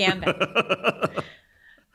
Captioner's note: laughs